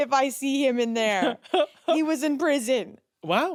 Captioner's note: laughs